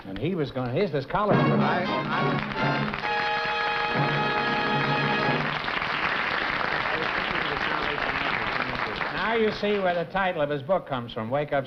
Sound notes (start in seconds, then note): 2.0 applause